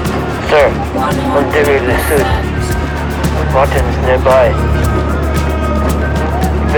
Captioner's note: radio chattering; intense music